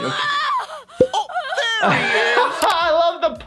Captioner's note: popping